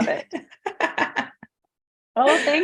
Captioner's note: laughing